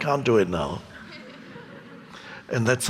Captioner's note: audience laughing